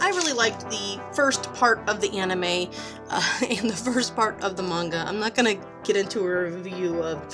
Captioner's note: laughs